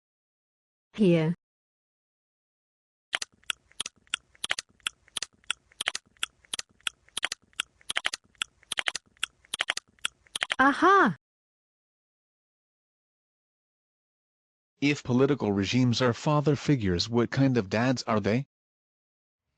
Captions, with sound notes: - [Voiceover] Here. (rhythmic clicking) Ah ha! - [Voiceover] If political regimes are father figures, what kind of dads are they?